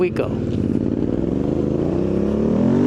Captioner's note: engine noise